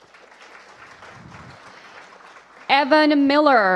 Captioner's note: applause